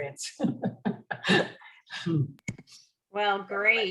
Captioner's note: laughs